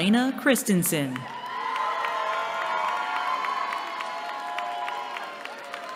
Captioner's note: cheering